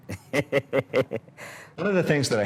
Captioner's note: laughing